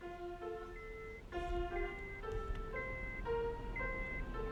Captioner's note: alarm beeping